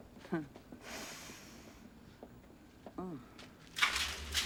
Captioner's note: sniffs